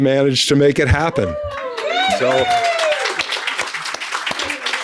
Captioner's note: audience cheering